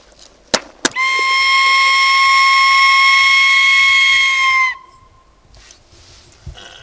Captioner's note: whistling mimicking a coyote howling